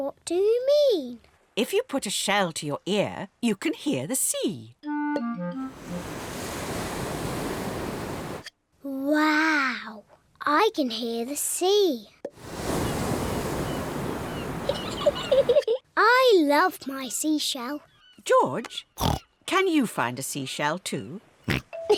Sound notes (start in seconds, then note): 5.6 waves crash and swoosh; 12.3 wave noises; 13.4 seagulls shriek; 14.6 giggles